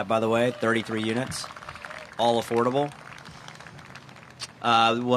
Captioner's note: applause